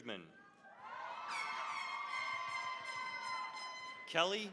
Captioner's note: cheering, applause; air horn blasting